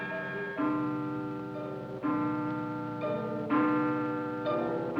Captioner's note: clock chiming